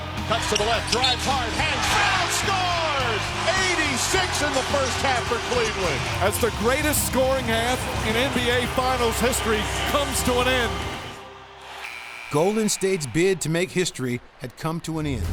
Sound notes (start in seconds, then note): 11.6 buzzer sounding